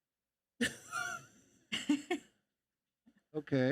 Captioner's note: laugh